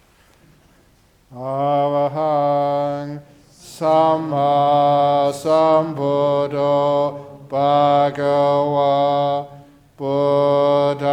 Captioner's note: chanting